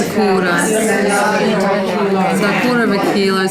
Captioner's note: participant chatter